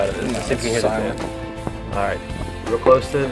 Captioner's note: voiceover